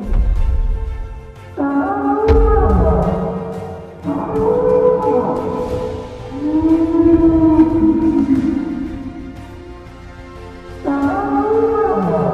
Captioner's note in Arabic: أصوات الدوس Brachiosaurus; استمرار Brachiosaurus أصوات